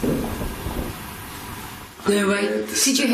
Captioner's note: clanging